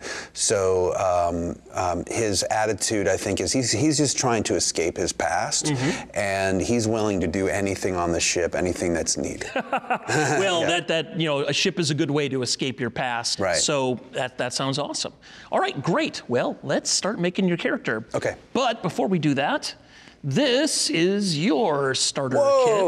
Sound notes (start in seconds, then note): 9.5 laughing